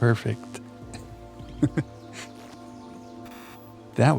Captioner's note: laughs